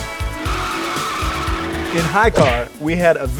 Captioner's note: car wheels squealing